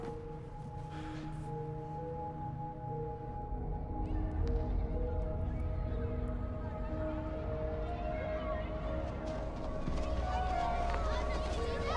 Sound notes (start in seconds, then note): 0.2 gentle suspenseful music; 4.3 voices whispering